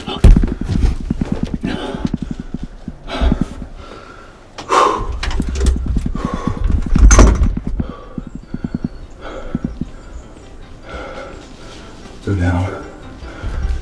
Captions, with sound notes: Oh, I smoked him. [Sound of excited breathing] Go down!